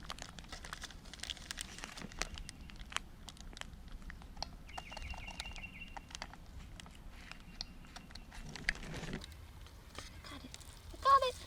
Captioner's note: plastic crinkling, bird calling